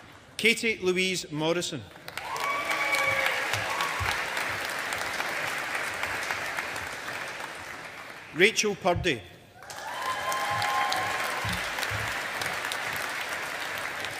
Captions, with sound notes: Katie Louise Morrison. (AUDIENCE APPLAUDING) Rachel Purdie. (AUDIENCE APPLAUDING)